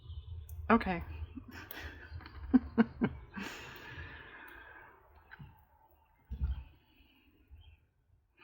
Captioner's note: laughs